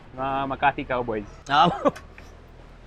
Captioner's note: chuckles